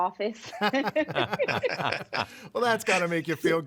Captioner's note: all laugh